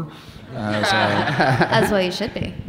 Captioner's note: audience laughing